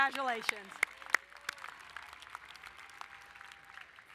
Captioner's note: applauding